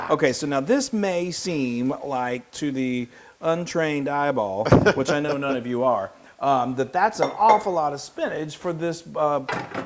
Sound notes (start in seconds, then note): 4.7 laugh